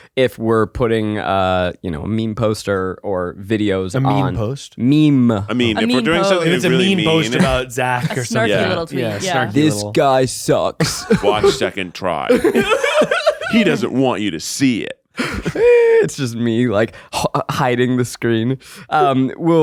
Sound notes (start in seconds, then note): 10.8 laughs; 12.2 all laughing